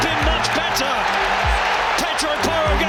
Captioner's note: crowd erupts